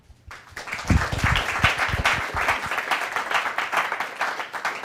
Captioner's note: applause